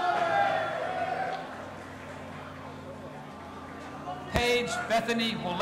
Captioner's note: audience applauding and cheering